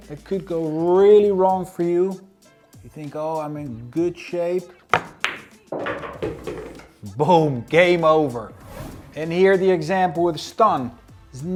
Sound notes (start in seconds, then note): 4.9 pool ball hitting